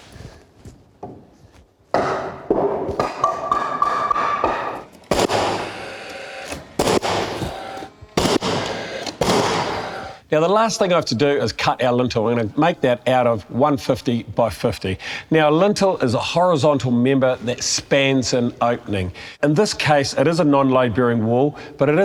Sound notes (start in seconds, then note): 1.9 hammering sound; 5.0 nail gun sound